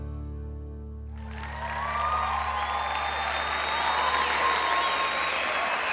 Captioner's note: crowd clapping and cheering